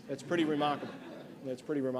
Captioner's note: laughter